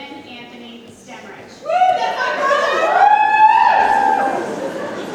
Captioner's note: audience cheers